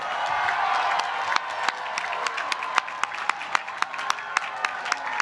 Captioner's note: applause